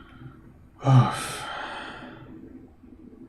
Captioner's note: sighing